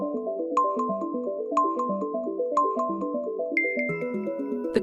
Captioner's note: timer beeping